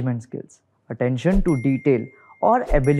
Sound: speaking hindi

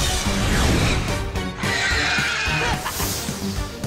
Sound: Puddles shrieks

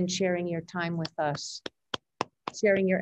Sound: clapping

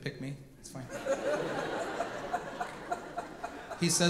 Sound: audience laughing

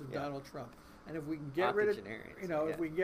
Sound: voice muffled

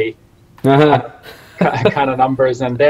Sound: laughs

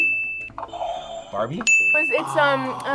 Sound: bell rings; bell rings; buzzer rings

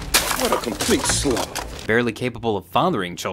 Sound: trash clatters

